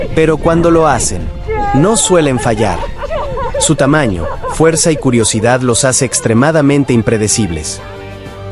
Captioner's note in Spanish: risas